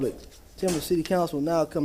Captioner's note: sounding gavel